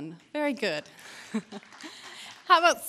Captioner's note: applause